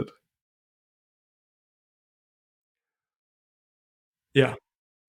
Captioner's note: silence